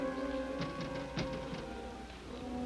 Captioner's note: light tapping